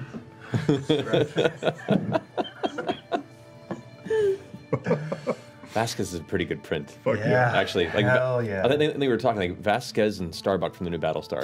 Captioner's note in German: laucht